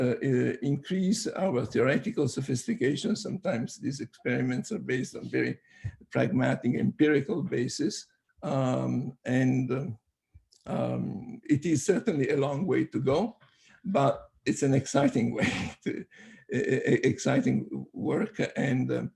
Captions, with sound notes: increase our theoretical sophistication. Sometimes these experiments are based on very pragmatic empirical basis. And It is certainly a long way to go, but it's an exciting way (laughs). Exciting work, and